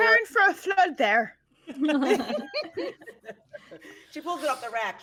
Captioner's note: people laughing